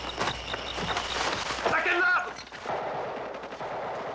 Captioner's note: gunshots